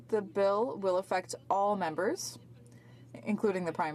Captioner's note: speaking French